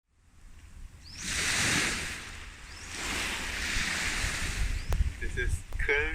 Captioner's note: sound of crashing waves